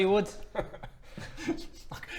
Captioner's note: guilty laugh